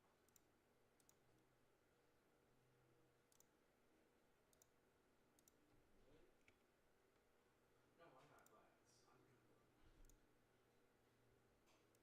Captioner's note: mouse and keyboard clicking